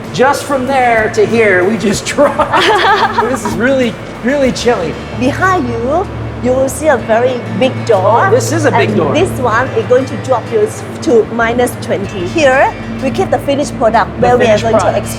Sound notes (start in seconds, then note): 2.2 laughing